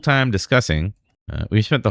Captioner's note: uh